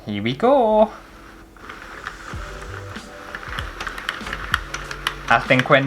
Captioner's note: plastic Cranking